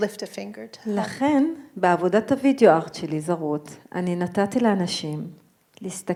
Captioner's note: speaking in foreign language